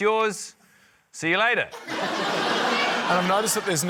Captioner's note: laughter